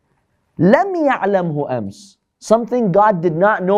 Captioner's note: Arabic